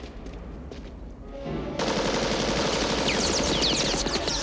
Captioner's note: gunfire continues